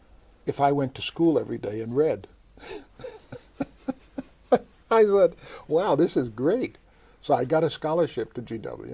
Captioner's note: laughs